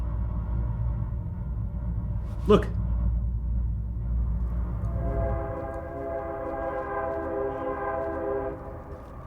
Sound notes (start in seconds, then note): 4.5 train horn blows